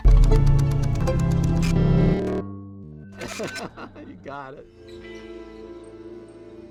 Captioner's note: laughs